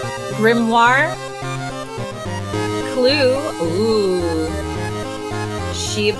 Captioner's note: oooo